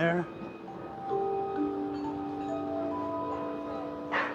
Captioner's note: wind chimes sound